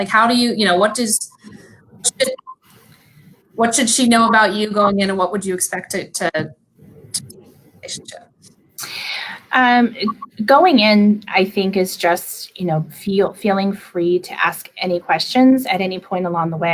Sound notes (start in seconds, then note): 6.8 computer static occurring